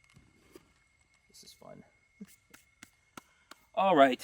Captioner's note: clapping